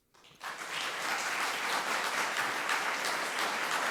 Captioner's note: audience clapping